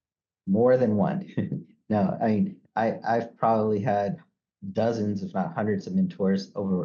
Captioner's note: chuckles